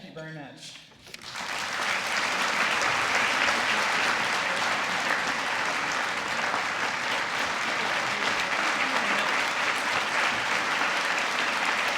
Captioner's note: applause